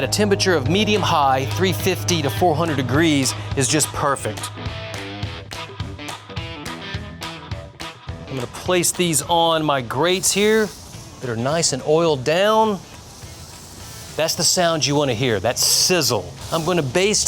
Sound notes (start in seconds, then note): 3.6 upbeat country music; 11.4 sizzling